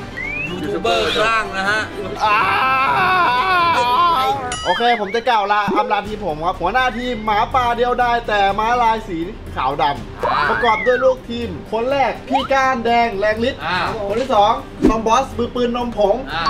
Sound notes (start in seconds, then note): 2.1 agh!!!